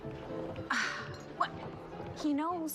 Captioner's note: sighs